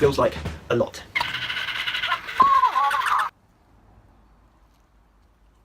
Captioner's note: toys barking and talking